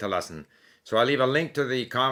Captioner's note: German